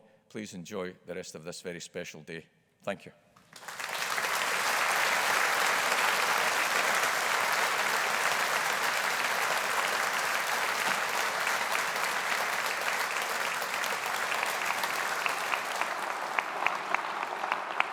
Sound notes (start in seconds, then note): 3.6 audience applauding